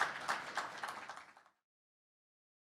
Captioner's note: audience applauding